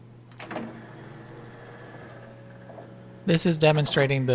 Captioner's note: A similar-sounding motor/creaking is heard as the tray moves